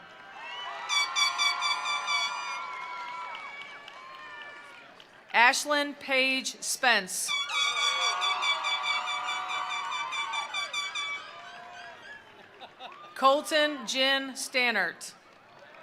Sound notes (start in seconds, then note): 0.0 attendees cheering; 0.0 attendees applauding; 7.4 attendees cheering; 7.6 attendees applauding; 15.2 attendees applauding; 15.6 attendees cheering